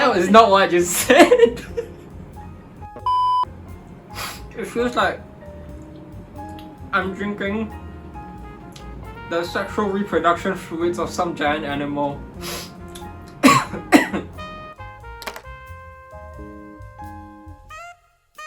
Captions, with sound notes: - That is not what I just said. It feels like I'm drinking the sexual reproduction fluids of some giant animal. (coughs) (light jazz music)